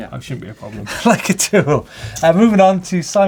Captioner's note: laugh